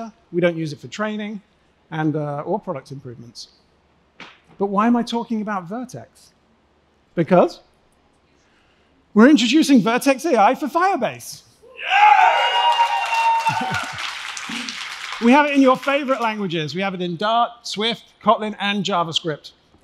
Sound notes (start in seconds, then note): 11.7 cheering; 12.3 applause; 14.4 laughs